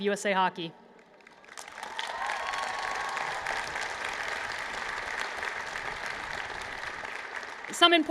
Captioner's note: applause